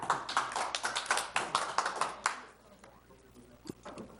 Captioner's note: people clap